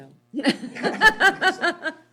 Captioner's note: laughs